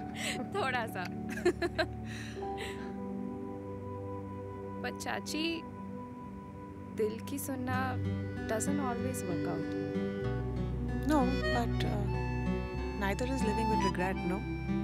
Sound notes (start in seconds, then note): 1.3 Both chuckle; 1.3 Laughs